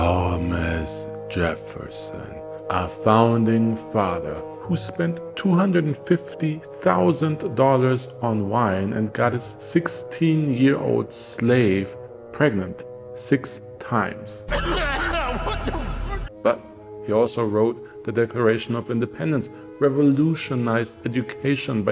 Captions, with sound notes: Thomas Jefferson A Founding Father who spent $250,000 on wine and got his 16-year slave pregnant six times. *meme cough* But… he also wrote the Declaration of Independence, revolutionized education